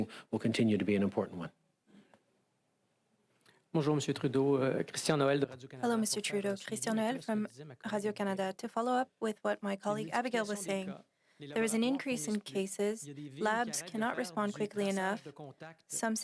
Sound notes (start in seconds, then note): 10.1 speaking French